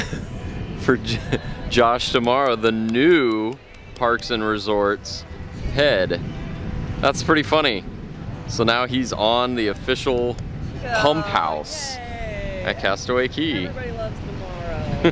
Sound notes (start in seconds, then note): 1.0 chuckles; 12.4 mumbling